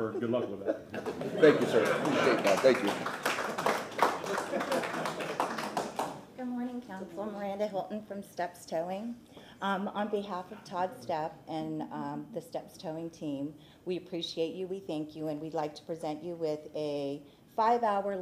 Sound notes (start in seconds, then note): 7.0 applause